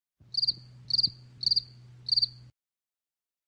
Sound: crickets chirping

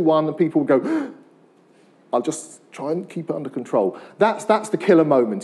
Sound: gasps

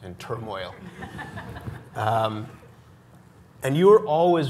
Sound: audience chuckles

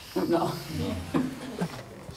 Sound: The Dr. laughs

